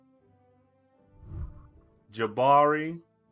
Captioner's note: whooshing